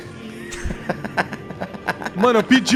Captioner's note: laughs